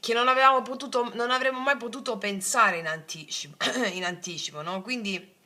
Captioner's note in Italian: schiarire la voce